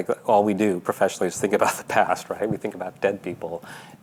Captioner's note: laughing